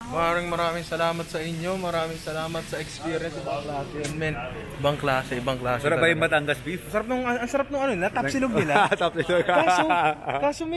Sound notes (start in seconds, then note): 8.5 laughs